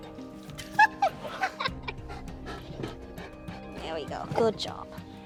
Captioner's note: laughing